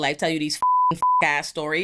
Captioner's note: beep